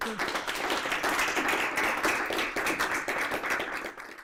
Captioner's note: applause